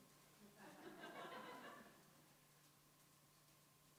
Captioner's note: audience laughs